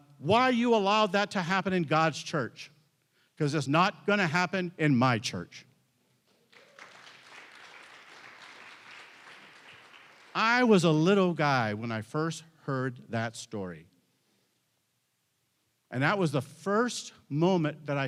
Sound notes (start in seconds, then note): 6.4 audience applauding